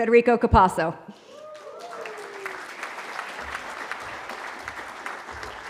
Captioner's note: cheering